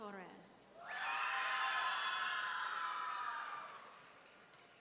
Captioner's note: audience cheering